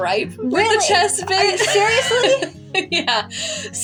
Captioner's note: laugh; laughing